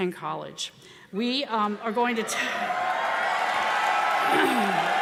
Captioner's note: audience cheering